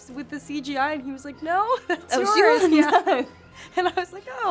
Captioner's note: laughs